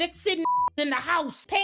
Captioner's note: beep